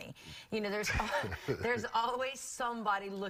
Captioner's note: laughter